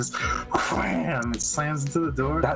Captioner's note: wham